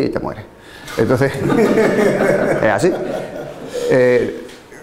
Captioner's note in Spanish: risas